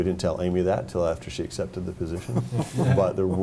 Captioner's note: group laughing